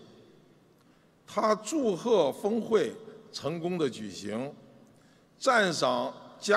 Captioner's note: speaking foreign language